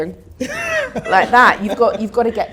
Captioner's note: laughs